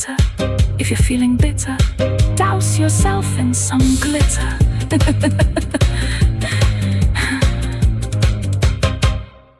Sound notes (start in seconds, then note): 7.5 laughter